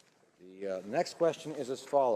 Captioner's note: speaking French